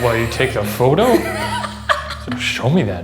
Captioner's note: laughing